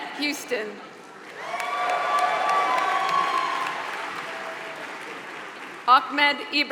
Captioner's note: applause